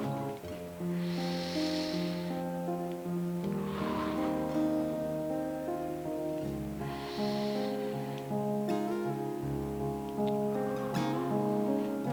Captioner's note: inhaling and exhaling